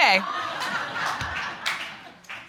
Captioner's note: audience laughing